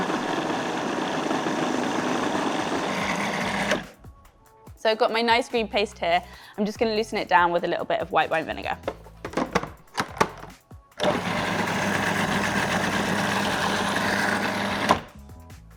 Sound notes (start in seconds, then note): 0.0 food processor whirring; 11.0 food processor whirring